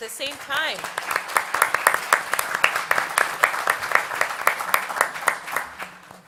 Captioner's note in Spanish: Aplausos